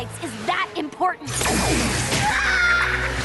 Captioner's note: zap; screams